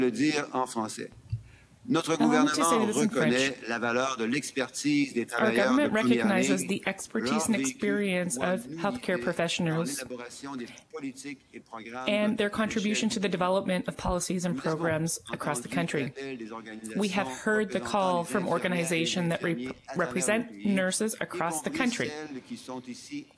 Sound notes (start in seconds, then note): 6.3 speaking French